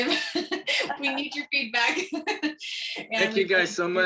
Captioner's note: laughter